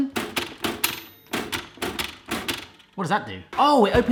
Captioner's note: toaster dings